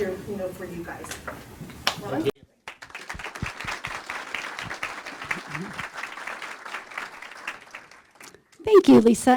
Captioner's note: applause